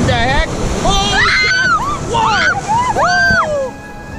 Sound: girls screaming

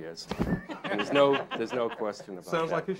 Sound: all laughing

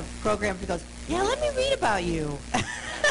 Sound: laughter

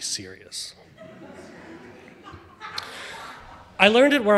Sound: audience laughing

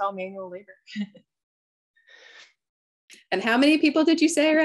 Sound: chuckles

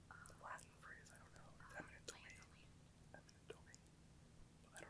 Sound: students whispering

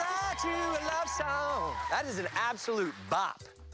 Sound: cheers and applause

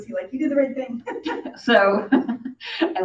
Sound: laughs

